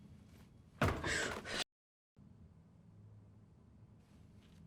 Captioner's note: thudding